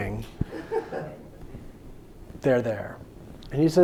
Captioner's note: audience laughing